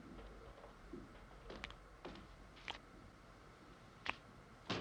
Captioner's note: liquid dripping